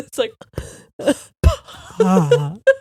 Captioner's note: blowing air; both laughing